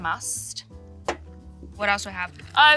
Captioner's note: bottle taps tabletop